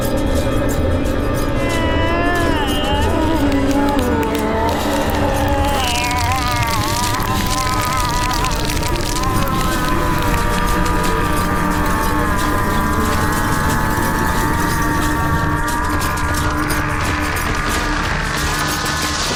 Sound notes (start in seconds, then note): 2.6 Scott groaning; 2.6 skin slicing